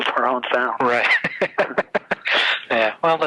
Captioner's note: laughs